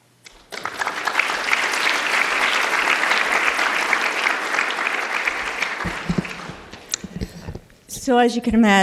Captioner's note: applause